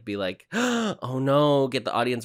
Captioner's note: gasp